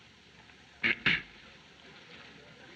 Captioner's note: clearing throat